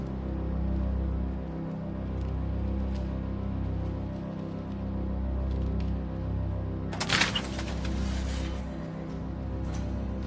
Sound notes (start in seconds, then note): 6.9 door opens